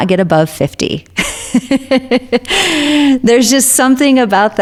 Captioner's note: laughs